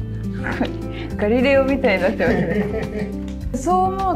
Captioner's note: laughs